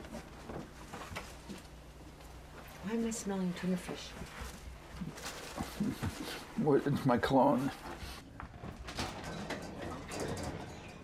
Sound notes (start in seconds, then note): 5.6 chuckles to himself